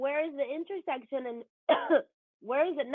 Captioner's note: coughs